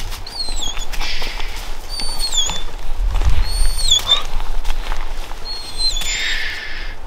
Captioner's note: Chewie whines